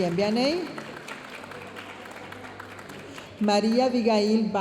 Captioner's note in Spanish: aplausos y vítores de la audiencia